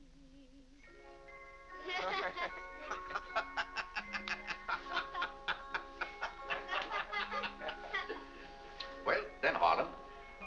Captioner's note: soft music; family laughing